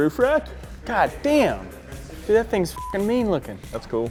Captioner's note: beep